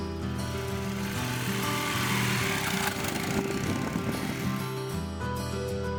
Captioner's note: motorcycle purring; gentle music